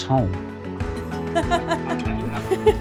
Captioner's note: laughing